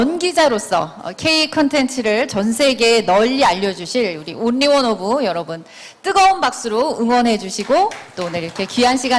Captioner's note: claps